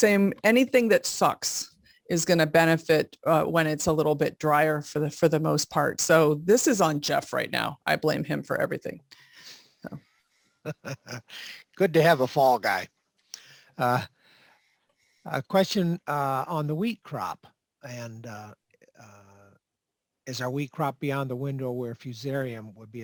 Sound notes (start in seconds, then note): 10.6 laughs